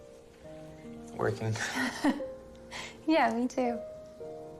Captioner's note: chuckles